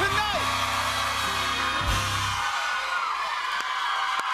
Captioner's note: cheers and applause